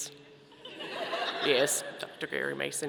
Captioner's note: audience laughing